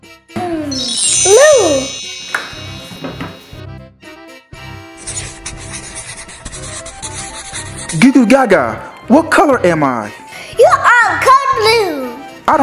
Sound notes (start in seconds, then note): 0.7 chimes; 5.0 scribbling